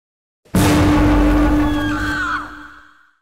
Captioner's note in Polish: dźwięk wybuchu